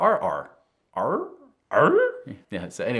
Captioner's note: host imitating dog whining